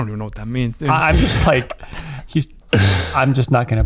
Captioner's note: laughs